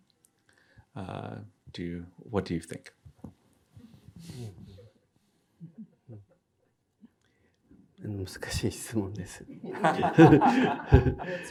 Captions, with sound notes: What do you think? (speaking in foreign language) (all laughing)